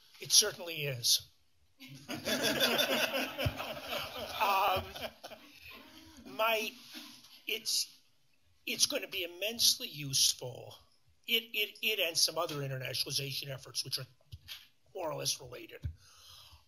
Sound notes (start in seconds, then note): 1.9 laughter